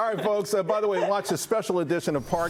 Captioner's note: laughter